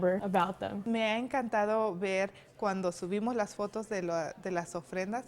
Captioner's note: non-english speech